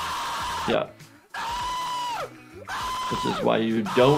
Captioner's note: screaming